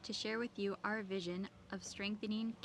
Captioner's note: speaking French